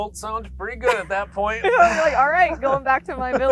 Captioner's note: both laughing